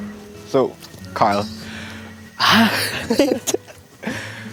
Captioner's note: laughing